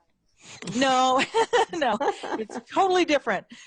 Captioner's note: laughs; laughing